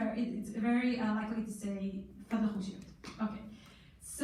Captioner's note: in foreign language